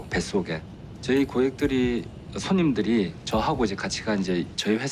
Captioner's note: speaking foreign language